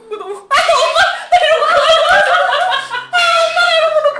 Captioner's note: laughing